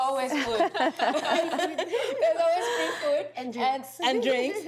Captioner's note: all laughing